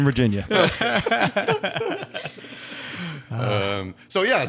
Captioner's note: all laughing